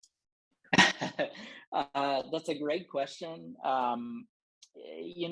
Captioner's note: laughter